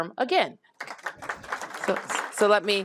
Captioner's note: applause